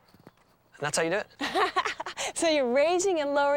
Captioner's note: laughs